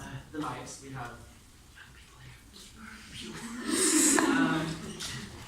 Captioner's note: whispers